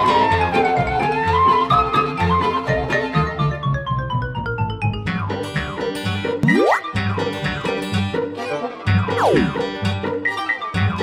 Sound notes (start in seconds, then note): 0.0 lively music; 6.3 sliding noise; 7.1 lively music; 9.2 sliding noise; 9.9 lively music